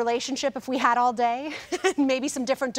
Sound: chuckles

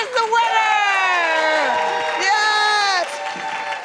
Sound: cheers and applause

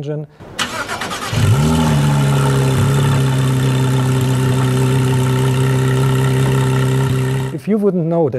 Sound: gt3 engine start & idle

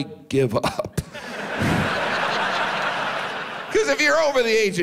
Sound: audience laughs

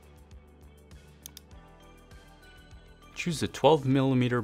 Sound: mouse clicking

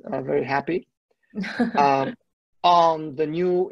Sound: laughs

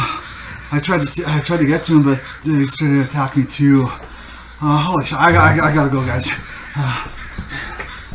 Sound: crows cawing

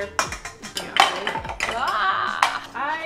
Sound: plastic clattering

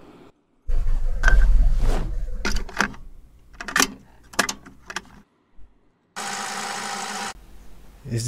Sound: audio Recorder Sound

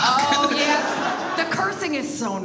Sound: audience laughs

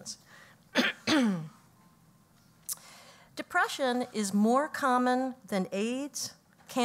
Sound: cough

